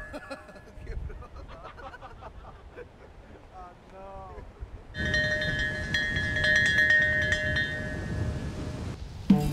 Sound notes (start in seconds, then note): 0.0 all laughing; 4.9 bell ringing